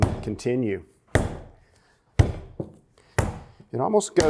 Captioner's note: dough pounding